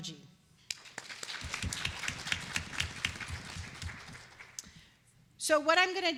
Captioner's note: applause